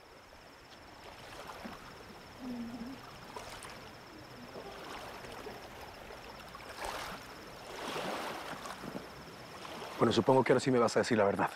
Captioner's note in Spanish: Murmullo del agua